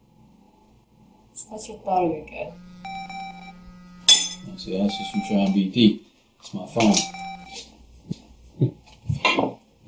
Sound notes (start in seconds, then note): 2.5 cell phone rings